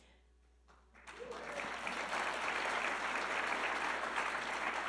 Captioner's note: audience clapping